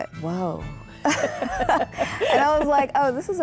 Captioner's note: laughing